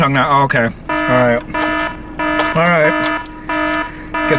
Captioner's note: alarm beeping